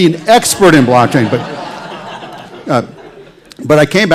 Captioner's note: laughter